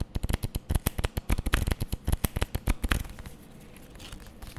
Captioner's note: cards flipping